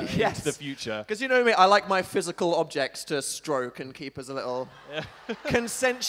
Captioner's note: audience laughter